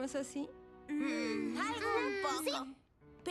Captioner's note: sigh; non-committal murmurs